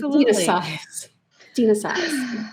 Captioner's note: laughs